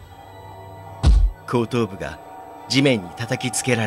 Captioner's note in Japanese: 頭を地面に叩きつける音：ゴスン！